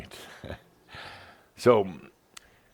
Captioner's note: chuckles